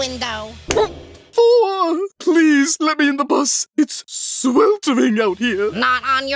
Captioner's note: thud